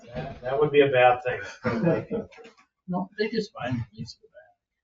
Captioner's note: members laugh; chuckles